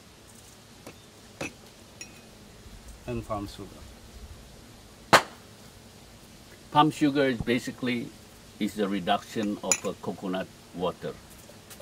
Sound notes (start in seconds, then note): 2.5 speaking